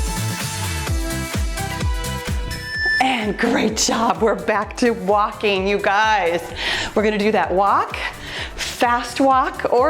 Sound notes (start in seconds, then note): 2.6 timer beeps